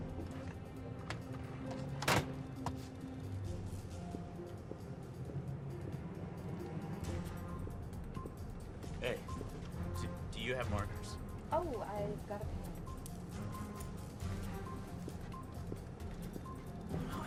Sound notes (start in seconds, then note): none